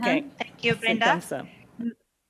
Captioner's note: speaking french